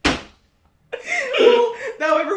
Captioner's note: giggling